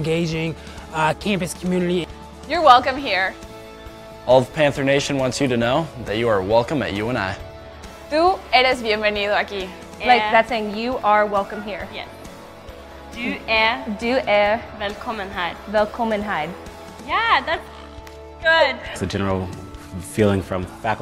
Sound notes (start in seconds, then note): 8.3 speaking Spanish; 12.5 speaking Norwegian